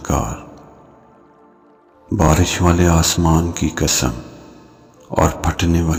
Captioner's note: rain